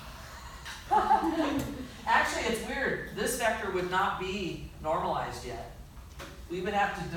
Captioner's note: laughter